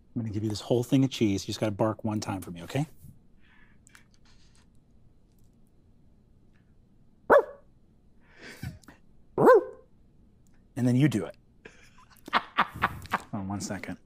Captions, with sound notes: I'm going to give you this whole thing of cheese You just gotta bark one time for me, okay? Aurf! Aurf! And then you do it. (Laughter) Hold on one second.